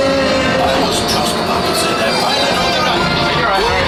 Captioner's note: chaos throughout